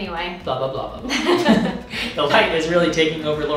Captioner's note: laughing